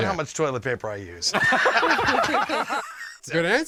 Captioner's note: laughing